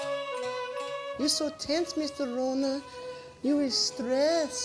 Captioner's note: bad japanese accent